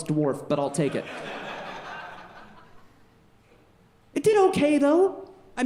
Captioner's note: audience laughing